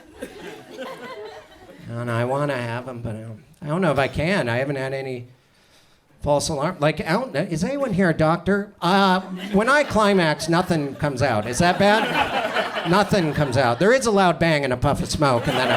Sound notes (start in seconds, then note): 12.5 audience laughs